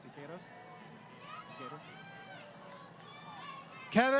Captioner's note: crowd Cheering